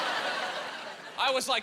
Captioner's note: laughing